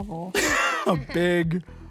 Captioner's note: laughs